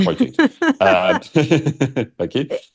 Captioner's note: laughs